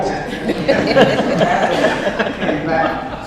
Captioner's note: audience laughs